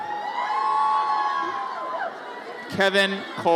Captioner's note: audience cheers